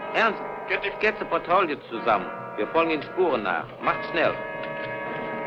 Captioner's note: speaking in a foreign language